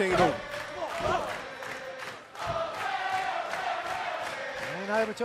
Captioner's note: fans chanting